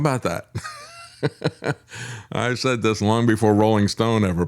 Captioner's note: laughs